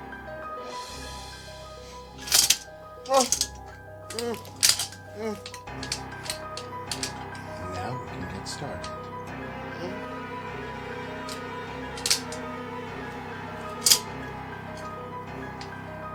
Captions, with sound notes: [Alex's muffled moans] Now we can get started.